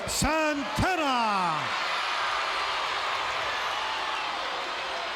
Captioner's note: audience cheering